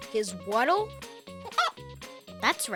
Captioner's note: clucking